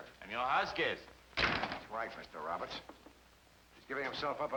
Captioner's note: door slamming